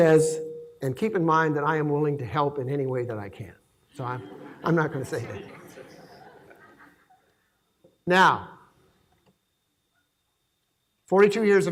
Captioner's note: laughing